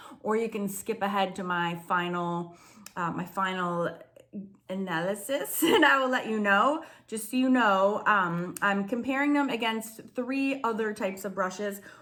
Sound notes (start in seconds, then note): 5.8 chuckles